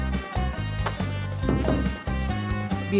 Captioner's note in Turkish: El vurma sesi